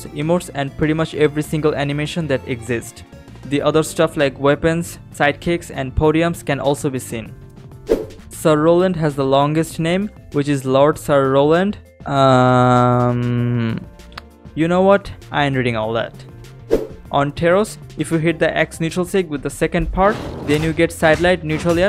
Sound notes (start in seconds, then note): 14.1 tsk